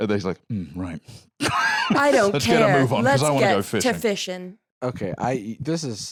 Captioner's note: laughs